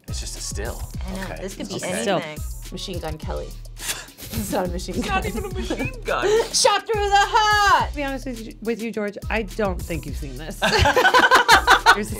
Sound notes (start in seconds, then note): 4.9 snickering; 10.6 both laughing